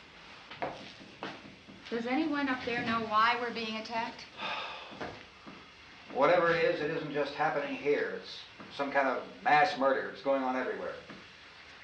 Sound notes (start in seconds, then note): 4.3 sighs